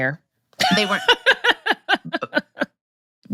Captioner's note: laughs